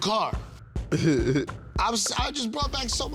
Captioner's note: laughs